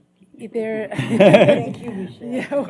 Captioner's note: laughter